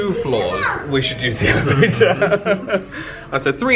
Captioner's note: laughs